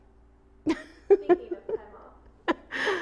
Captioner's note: Caroline laughing